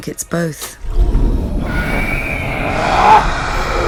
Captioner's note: roar; scream